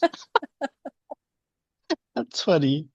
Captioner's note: laughs